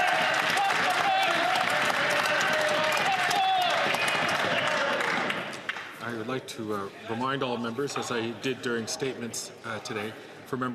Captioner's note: some Applause